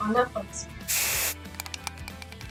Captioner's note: upbeat music; spray can hisses; ball rattles